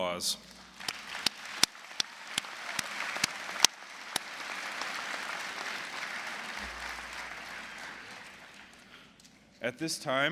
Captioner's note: applause